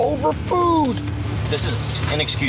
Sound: hand slapping

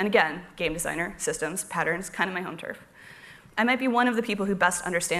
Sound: none

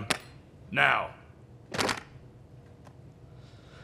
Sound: phones thud

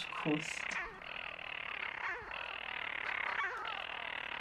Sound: rasping birdcall

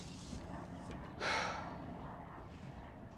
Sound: Carl exhales

